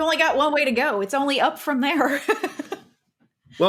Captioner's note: laughs